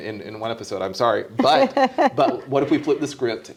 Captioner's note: laughing